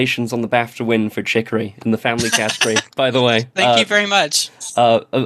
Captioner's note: laughs